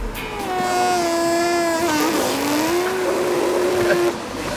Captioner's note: high pitched sound of air being sucked out of machine